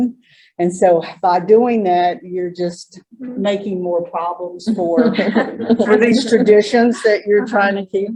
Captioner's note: laughter